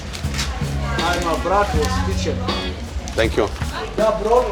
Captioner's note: assistant speaking foreign language